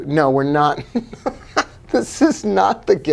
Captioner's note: laughing